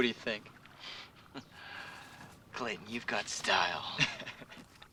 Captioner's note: chuckles; Clayton laughing